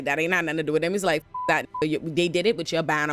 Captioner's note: beep